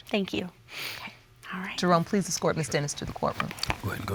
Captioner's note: sniffs